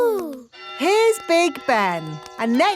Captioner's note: clock chimes